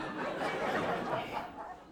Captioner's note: audience laughing